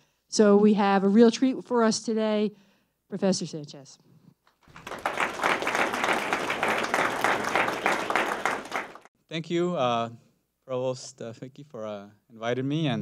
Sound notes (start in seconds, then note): 4.6 applause